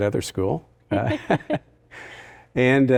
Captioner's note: both laughing